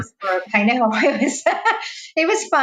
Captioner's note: laughs; laughing